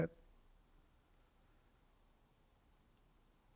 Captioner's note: pauses 8 seconds